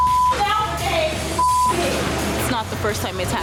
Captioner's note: beep